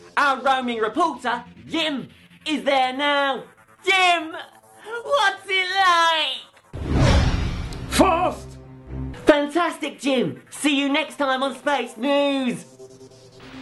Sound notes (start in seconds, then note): 6.6 whoosh; 12.7 static